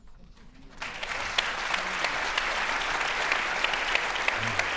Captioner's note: audience applauding